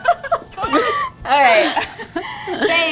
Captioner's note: laughing